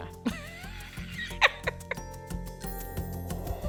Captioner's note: laughing